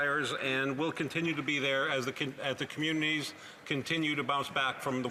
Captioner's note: applause